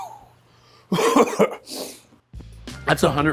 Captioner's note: coughs; sniffs